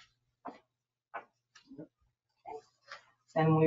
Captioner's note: silence